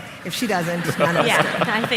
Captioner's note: laughter